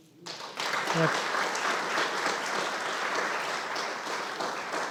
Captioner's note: audience applauding